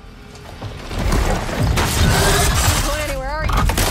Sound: beast screaming

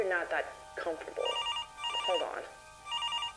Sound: phone ringing

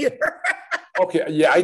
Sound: laughs

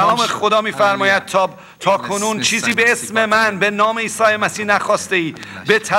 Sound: speaking in foreign language

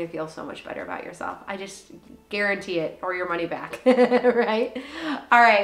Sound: laughs

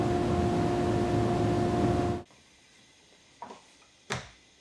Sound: saw engine whirring

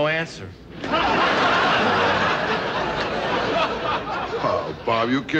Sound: audience laughing

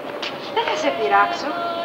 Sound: Greek spoken audio

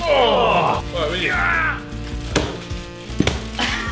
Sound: grunting

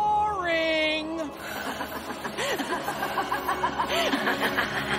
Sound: laughing

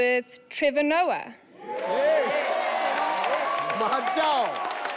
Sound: audience cheering

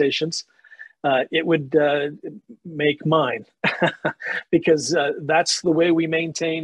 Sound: laughs

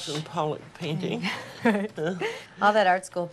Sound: both laughing

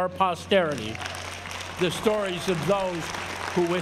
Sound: applause

